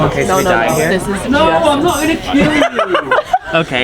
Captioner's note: audience member laughing